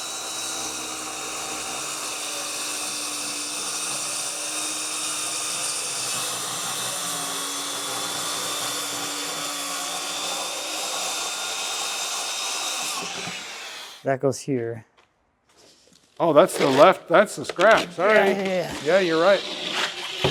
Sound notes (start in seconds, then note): 0.1 saw whirring; 9.1 whirring continues